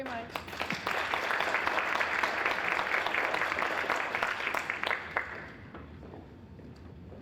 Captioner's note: applause